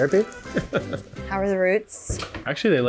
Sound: chuckling

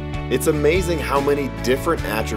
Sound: guitar music; voiceover

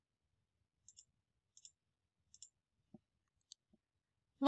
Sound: mouse clicking

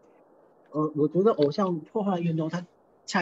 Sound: Mandarin

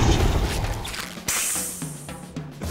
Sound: sizzling

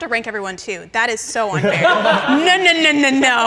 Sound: all laughing

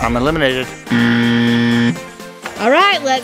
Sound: buzzer ringing

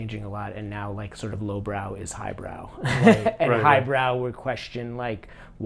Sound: laughs

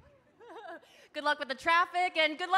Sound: laughs

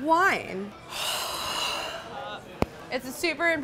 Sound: breathes deeply

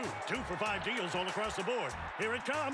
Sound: crowd cheers

